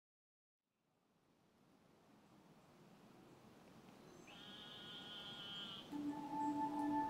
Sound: birds chirping/Wind

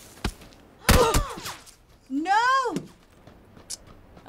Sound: gun firing; character grunts; gasps

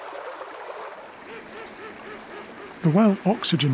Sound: ducks quacking

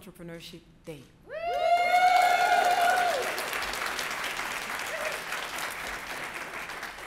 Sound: audience clapping

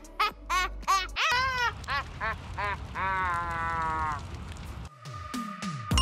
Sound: does an evil laugh

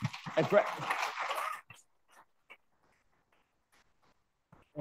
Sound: audience clapping

